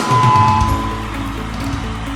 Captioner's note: cheering